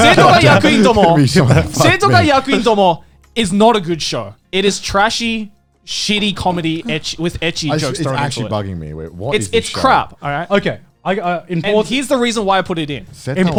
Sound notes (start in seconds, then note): 0.2 speaking in a foreign language; 8.1 both mumbling